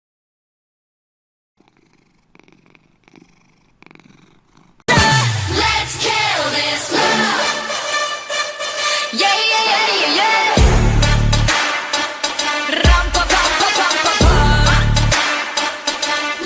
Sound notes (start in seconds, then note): 1.6 cat purrs; 5.0 upbeat music